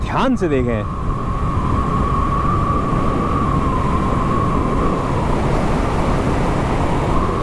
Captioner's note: wind whistling through